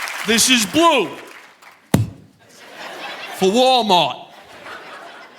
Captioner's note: mimics fist thud